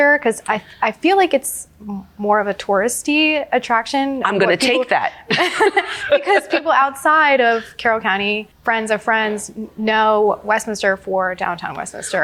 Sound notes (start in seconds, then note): 5.3 both laughing